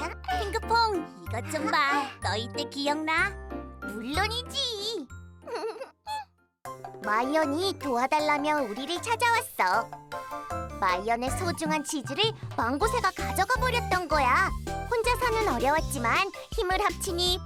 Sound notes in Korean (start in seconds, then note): 5.5 웃음소리